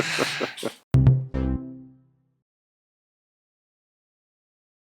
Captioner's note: laughing; bells chiming